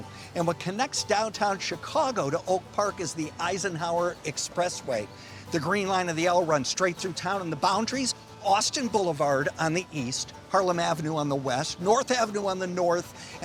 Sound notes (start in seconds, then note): none